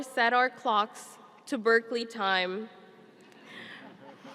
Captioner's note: chuckling